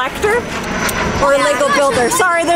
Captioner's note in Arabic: محرك الطائرة يهدر فوقنا